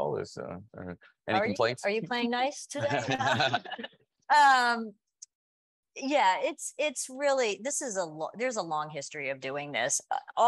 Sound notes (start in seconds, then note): 2.8 panelists laughing